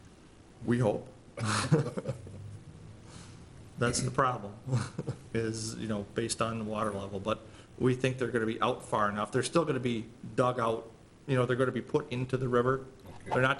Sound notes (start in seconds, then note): 1.4 laughing